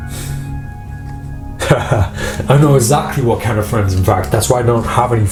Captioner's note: laughs